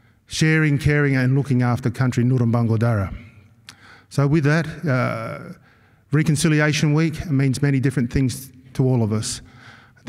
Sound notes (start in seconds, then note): 2.3 non-english-speech